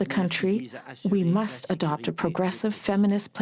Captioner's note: speaking french